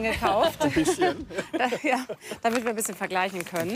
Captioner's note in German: Lachen